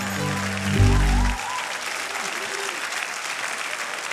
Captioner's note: applause